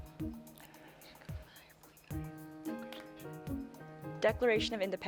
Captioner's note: team whispering